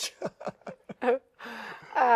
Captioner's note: laughs